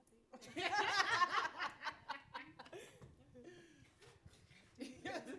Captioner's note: panelists faintly laughing